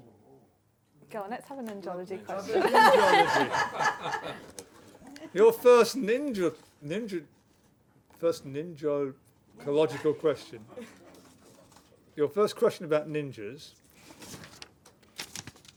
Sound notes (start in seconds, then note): 2.4 laughter